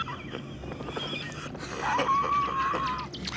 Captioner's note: laughing; chirping